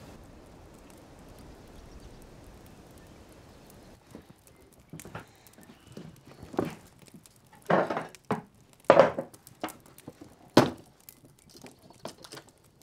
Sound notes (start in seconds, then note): 0.1 fire crackling; 7.6 chair clanks; 10.4 box thuds